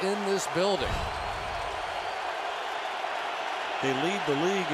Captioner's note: cheering